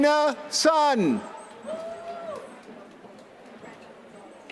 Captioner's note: applause